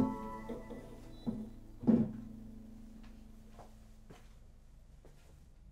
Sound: guitar clattering

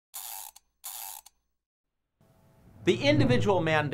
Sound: gear winding

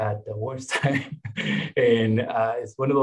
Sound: chuckling

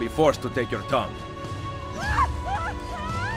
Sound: Lucrezia screams

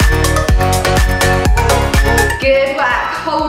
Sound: alarm beeping

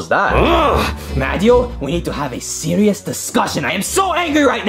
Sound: grunts

